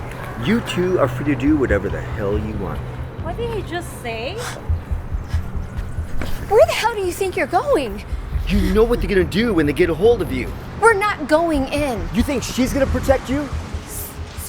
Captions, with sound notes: You two are free to do whatever the hell you want. What did he just say? [scoffs] Where the hell do you think you're going? You know what they're gonna do when they get a hold of you. We're not going in. You think she's gonna protect you?